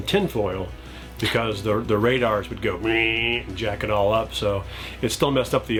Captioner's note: buzzing